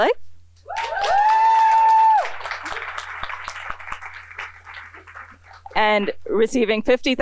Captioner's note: applause